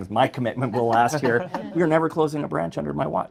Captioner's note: group laughs